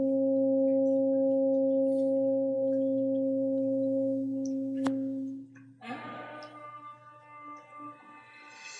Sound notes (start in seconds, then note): 2.2 horn blowing